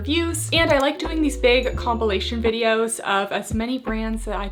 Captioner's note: keyboard clanking; bell chiming